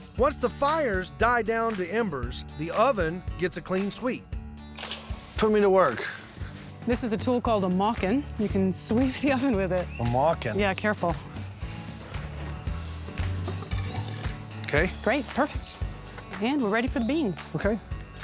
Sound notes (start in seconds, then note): 13.4 scraping sound